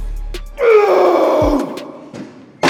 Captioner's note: strained scream